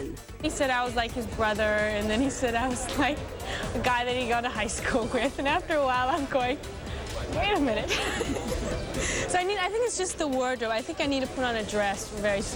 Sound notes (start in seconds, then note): 7.8 laughs